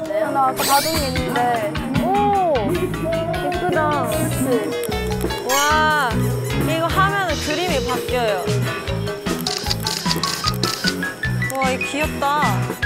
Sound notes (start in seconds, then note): 9.4 click, click